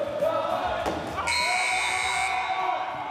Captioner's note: buzzer; shouting